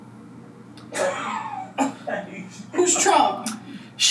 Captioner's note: laughs